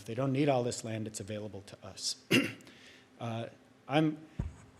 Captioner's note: clears throat